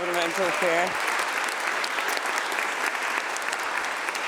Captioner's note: applause